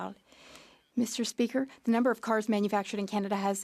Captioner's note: speaking French